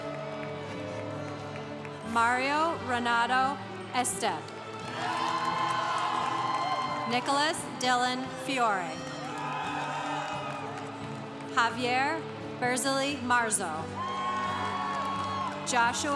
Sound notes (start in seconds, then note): 0.0 congregation cheering; 4.6 congregation cheering; 9.0 congregation cheering; 13.9 congregation cheering